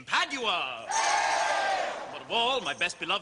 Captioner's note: Crowd cheers Padua